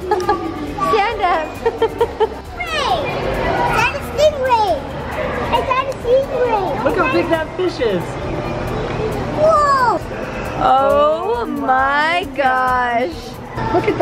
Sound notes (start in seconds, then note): 1.4 laughs